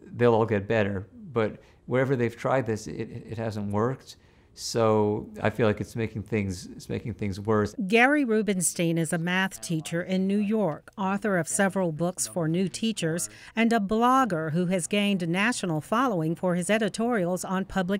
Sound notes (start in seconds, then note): 6.5 voiceover